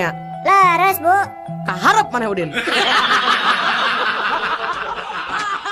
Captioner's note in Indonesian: tertawa